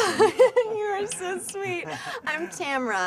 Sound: laughing

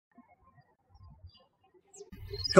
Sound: birds chirping

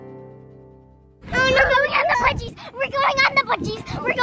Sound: mumbles

